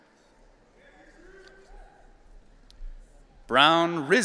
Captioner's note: audience cheering